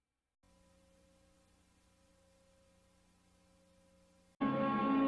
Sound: VHS static; snippeted music ends

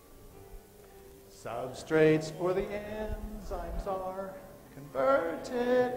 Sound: none

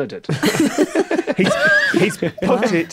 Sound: group laughing

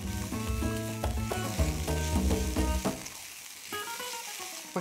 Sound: sizzling

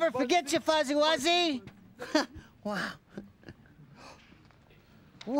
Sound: chuckles

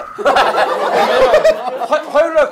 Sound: laughing

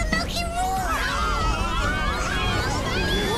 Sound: shouting

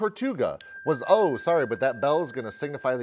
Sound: bell chimes

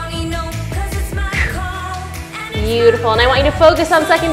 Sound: exhales sharply

